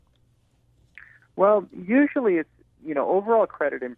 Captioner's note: voiceover